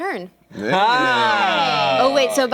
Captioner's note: cheering